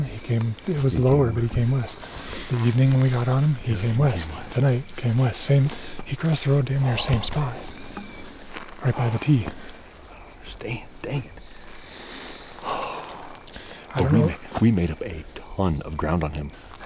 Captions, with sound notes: he came it was lower, but he came west. The evening when we got on him he came west. Tonight, came west. So I mean... He crossed the road damn near same spot. Right by the T. I don't understand. Dangit! (Sigh) We made up a ton of ground on him.